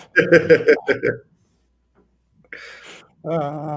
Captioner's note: laughing